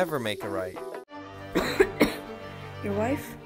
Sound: Kimon coughs

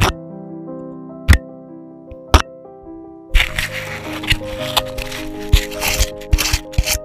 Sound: piano music; scraping

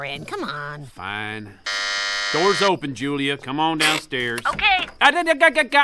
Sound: door buzzer sound

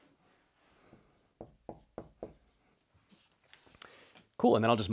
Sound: marker tapping board

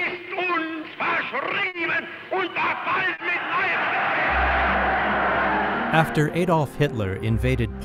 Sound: Hitler speaking to a large audience, in German

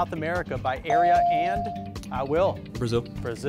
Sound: device dings

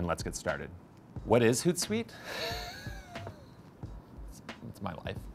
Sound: laughing

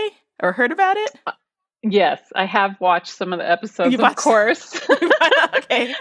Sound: laughs

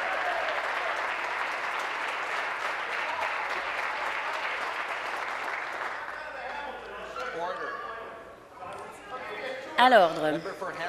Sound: applause

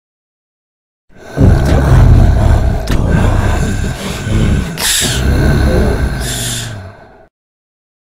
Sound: demon voice

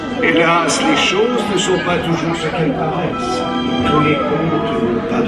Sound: announcer speaking in French

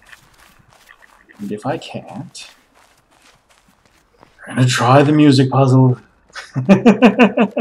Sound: groaning; chuckles

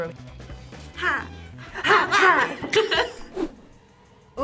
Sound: group laughs

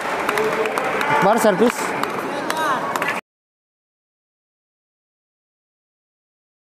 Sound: applause

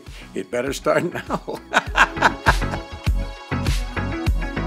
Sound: laughs

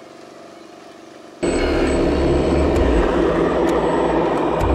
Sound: engine roaring

